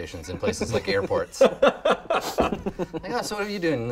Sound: laughing

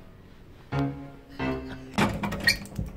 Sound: brief off-camera laughter

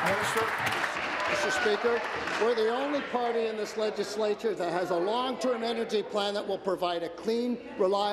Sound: applause

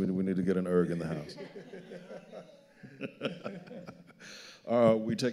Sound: all laughing

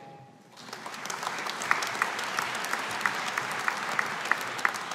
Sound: audience applauding

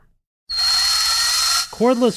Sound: drill

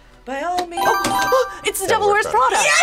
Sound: buzzer rings

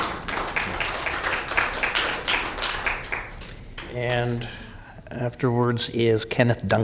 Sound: applause

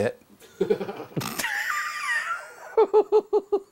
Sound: laughing

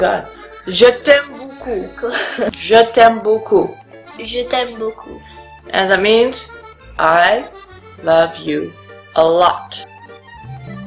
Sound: laughing

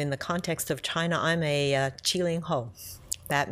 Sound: speaks Mandarin

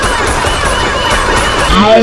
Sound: gun fires in a short, rapid manner several times; slowed Down Deep Voice

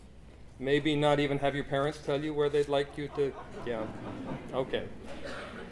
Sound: audience laughter

